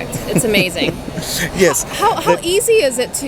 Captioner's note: laughs